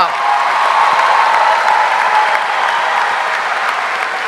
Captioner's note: audience applauding